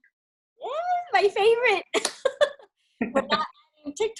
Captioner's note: laughs